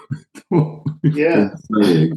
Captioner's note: laughs